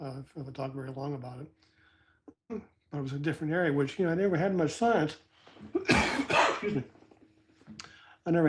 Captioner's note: cough